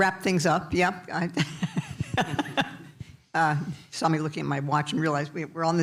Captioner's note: laughs